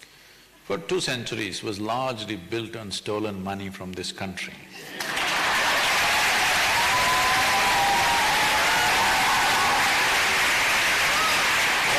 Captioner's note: applause